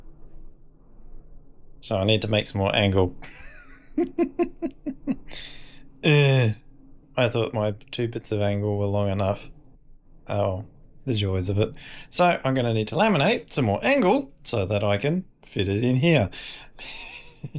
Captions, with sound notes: So I need to make some more angle. (laughs) I thought my two bits of angle were long enough. Oh, there's yours a bit. So I'm gonna need to laminate some more angle so that I can fit it in here.